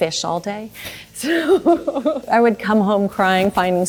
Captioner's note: chuckles